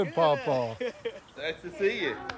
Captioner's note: laughs